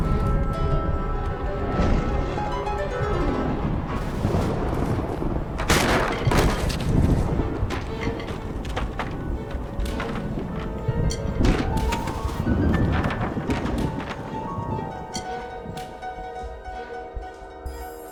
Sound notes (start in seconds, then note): 2.1 thunder crashing; 5.2 chair clattering; 10.1 tense music